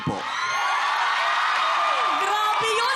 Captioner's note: crowd cheering, applauding